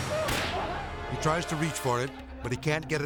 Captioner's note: gun firing